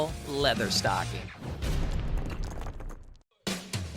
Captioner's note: logo bangs; upbeat music